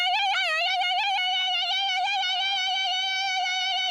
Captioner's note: keening